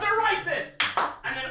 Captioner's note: clap clap